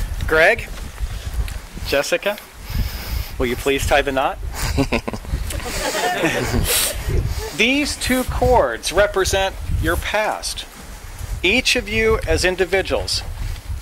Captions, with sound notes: Greg, Jessica, will you please tie the knot? (guests laughing) These two cords represent your past. Each of you as individuals